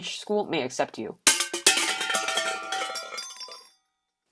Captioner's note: tins crashing